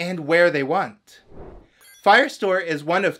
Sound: whoosh

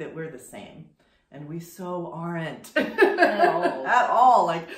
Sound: laughs

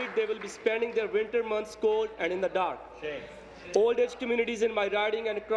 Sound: applause

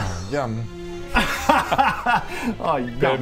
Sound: laughs in schadenfreude

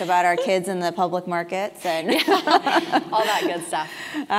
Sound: laugh

